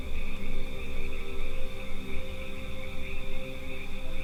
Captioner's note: insects chirping